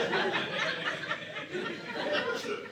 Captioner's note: audience laughing